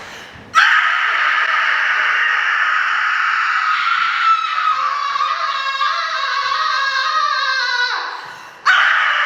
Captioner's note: a loud, long yell; a loud, shorter yell